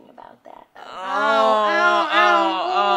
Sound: moaning

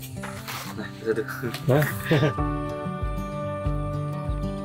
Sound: laugh

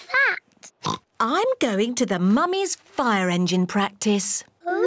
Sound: oinks

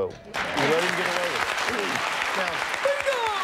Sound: audience applauding

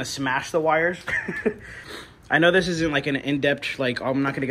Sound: laughs

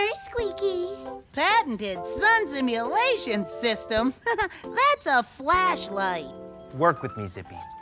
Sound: giggle

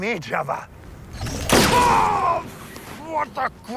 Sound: Vag'duban groans; blaster blasts

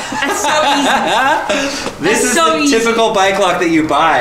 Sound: laughs

